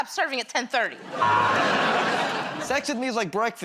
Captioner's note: buzzer